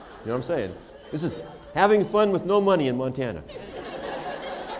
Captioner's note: laughter